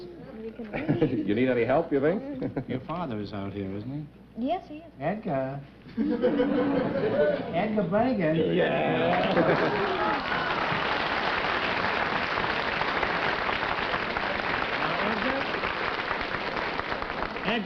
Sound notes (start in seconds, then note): 5.9 chuckling; 9.9 applause